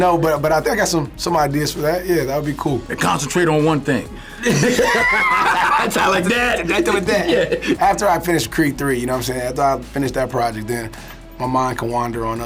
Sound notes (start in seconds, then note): 4.2 laughs